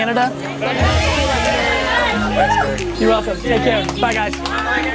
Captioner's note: excited chatter